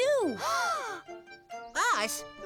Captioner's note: both gasp